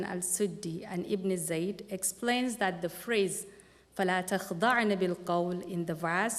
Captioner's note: non-english speech